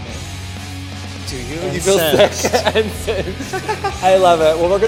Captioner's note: laughs